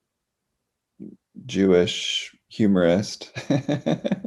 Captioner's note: laughs